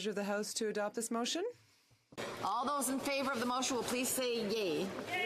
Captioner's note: speaking French